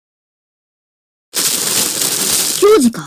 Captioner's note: bushes sounds